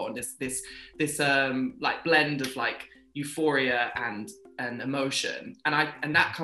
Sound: claps

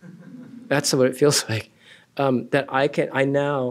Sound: laughter

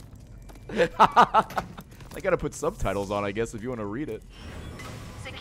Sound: laughs

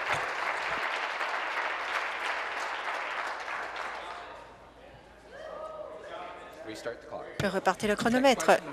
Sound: applause

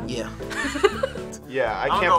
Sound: laughs

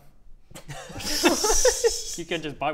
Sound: bemused laughter

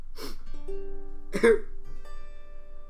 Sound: sob

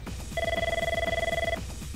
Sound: phone ringing

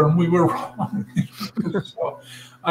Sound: laugh

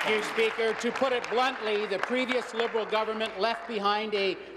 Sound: applause

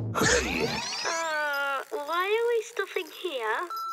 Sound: grunts; recorded Voice; laughing

